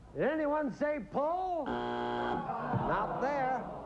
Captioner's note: buzzer